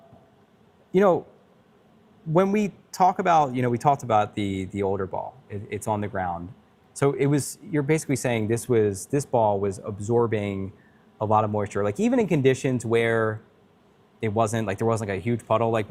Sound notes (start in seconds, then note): none